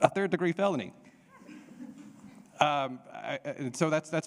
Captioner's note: laughs; audience laughing